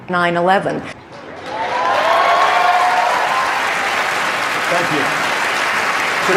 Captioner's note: cheers